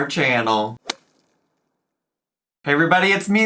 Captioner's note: logo thuds